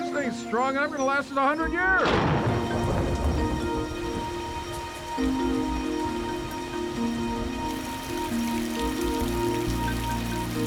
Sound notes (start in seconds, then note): 3.5 thunder crashes